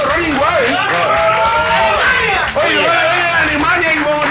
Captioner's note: applause